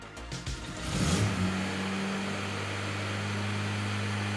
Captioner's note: engine rumbles